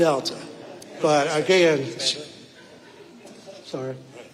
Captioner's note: audience laughing; speaking quietly